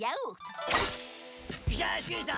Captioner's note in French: claquement d'épées